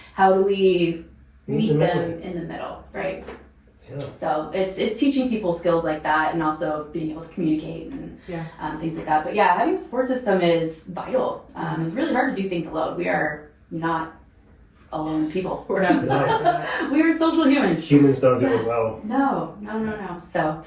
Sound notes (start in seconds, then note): 15.0 laughing